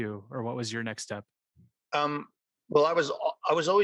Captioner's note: none